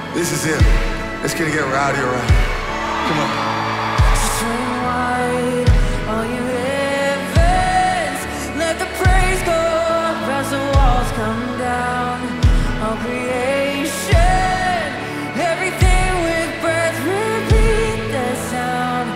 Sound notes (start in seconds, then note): 2.7 cheering